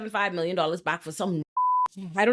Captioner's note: beep